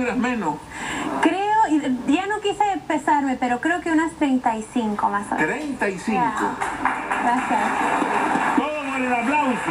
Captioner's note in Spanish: Aplausos